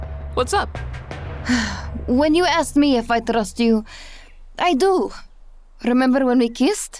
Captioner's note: sighs